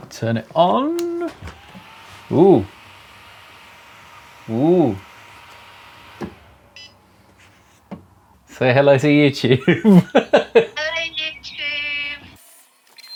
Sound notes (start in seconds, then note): 1.5 machine whirs; 6.7 machine beeps; 9.4 laughs